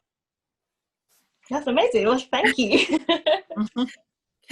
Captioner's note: laughs